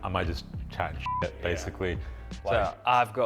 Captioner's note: screen beeps